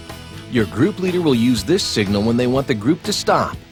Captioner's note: voiceover